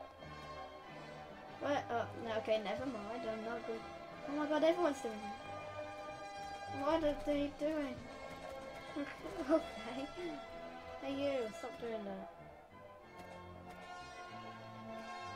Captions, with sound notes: Wha- oh- oh okay nevermind. Oh my god everyone's doing it! Why are they doing- *snigger* Okay.. *inhale* Hey you stop doing that